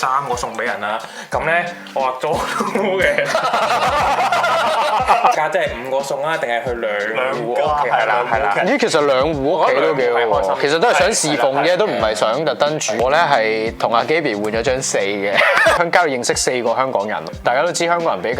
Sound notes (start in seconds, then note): 4.3 laughter